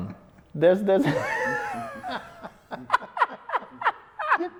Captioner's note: laughs